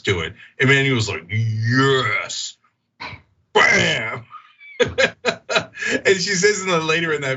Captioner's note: laugh